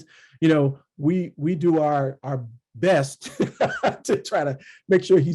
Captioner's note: laughs